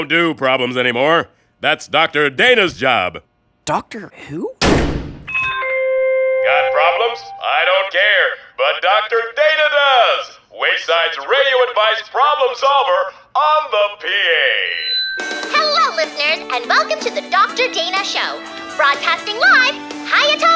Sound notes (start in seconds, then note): 5.2 pa system chimes; 13.2 microphone feedback squeals